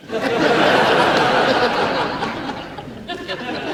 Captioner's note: audience laughs